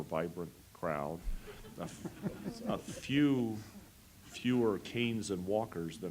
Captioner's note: laugh